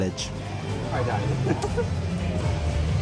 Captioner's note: laughs